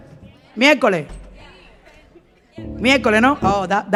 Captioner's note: speaking in Spanish